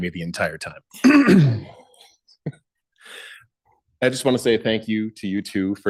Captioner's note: clears throat; laughs